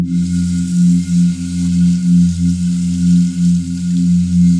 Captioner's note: water running